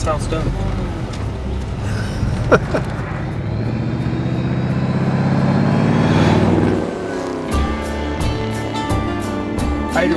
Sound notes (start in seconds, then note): 1.8 laughs; 3.7 car engine revving; 7.2 upbeat country music